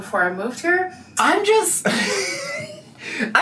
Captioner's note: laughs